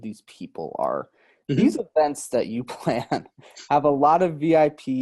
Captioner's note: laughs